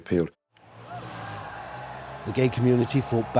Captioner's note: crowd yells